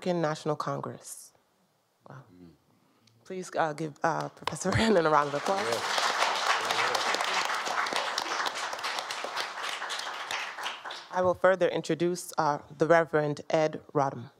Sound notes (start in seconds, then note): 6.2 applause